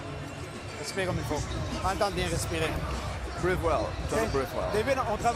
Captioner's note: speaking French